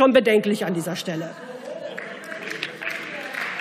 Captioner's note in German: Beifall